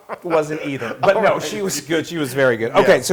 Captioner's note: laugh